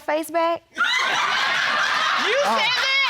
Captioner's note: audience laughing